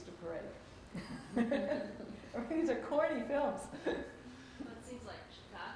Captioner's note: laughs